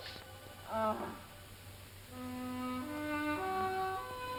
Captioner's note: Peggy groans